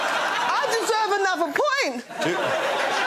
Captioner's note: laughter